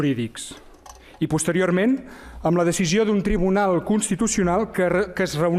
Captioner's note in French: espagnol